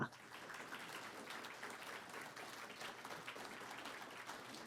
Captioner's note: audience applauding